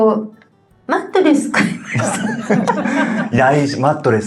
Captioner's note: laughs